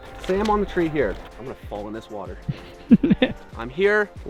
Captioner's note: laughs